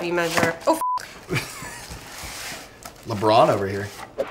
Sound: beep; chuckles

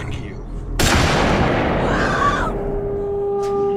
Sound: gun banging

